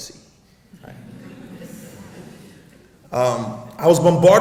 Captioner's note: audience laughs